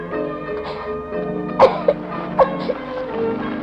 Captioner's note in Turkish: Öksürükler